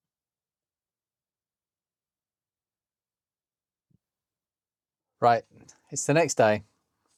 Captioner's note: silence